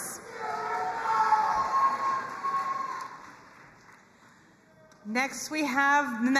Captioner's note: crowd cheering and applauding